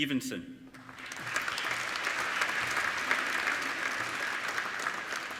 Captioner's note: applauding